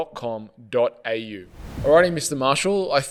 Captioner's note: air whooshing sound